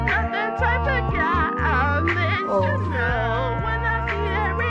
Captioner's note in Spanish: gemidos